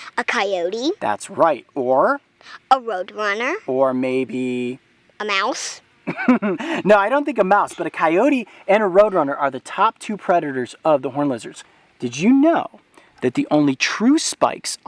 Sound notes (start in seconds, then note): 6.1 Coyote laughs